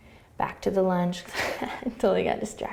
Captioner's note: laughing